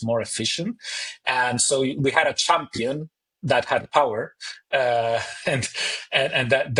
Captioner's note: chuckles